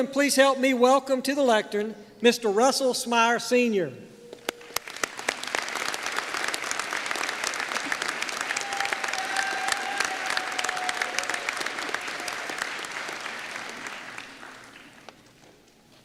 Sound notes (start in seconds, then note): 4.4 applause